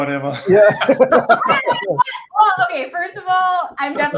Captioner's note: panelists laugh